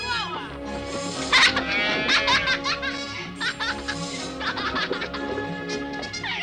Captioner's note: Leonardo laughing!